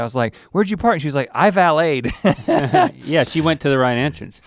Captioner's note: chuckles